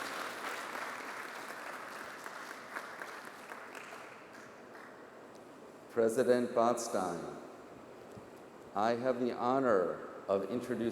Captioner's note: applause